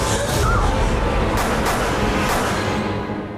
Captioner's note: 3 gun shots